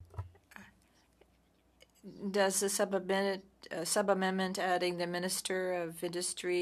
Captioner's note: speaking French